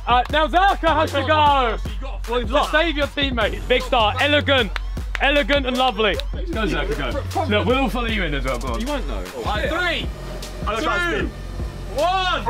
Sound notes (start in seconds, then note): 4.6 claps